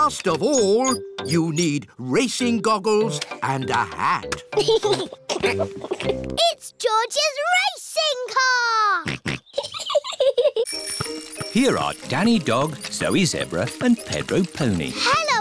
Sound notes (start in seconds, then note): 4.5 chuckles; 9.1 snorts; 9.1 chuckles